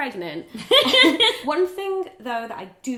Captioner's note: laughing